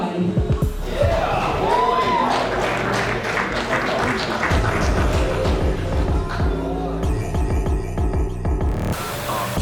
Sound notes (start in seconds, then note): 0.7 crowd cheers; 4.4 thumping bass music